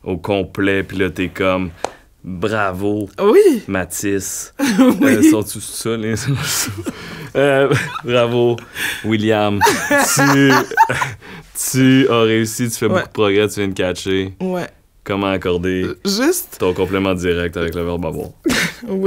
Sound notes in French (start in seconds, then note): 9.6 éclat de rire